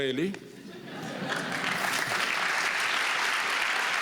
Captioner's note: applause